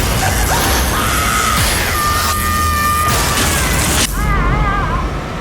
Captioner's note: electrical buzzing; woman screaming; woman sobbing